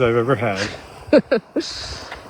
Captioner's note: laughing